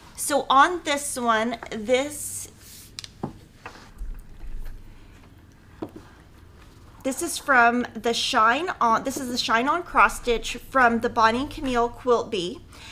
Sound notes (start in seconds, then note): none